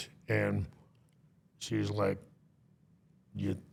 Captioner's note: none